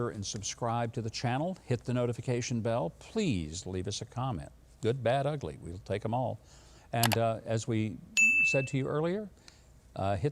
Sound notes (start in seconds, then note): none